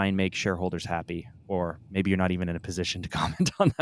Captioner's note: laughs